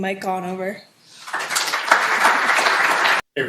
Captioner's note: applause